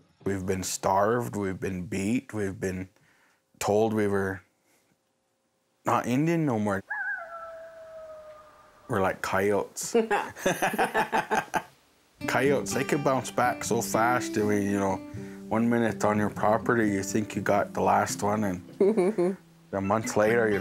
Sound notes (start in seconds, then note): 6.8 coyote howls; 10.1 both laugh